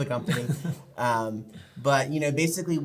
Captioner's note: laughing